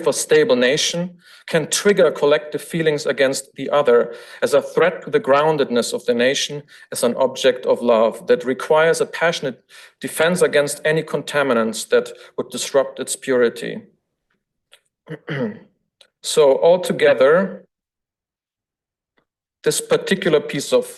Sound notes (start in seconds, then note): 15.0 throat clears